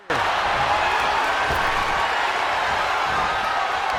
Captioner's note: crowd cheering